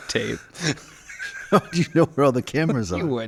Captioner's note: laughing